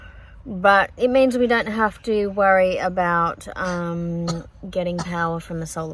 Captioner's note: coughs